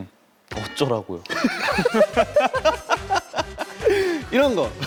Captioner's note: cracks up